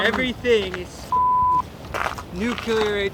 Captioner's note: beep